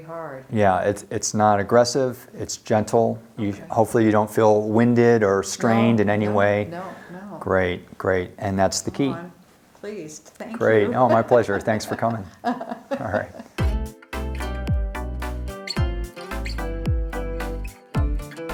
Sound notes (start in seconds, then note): 12.5 laughs; 13.5 upbeat music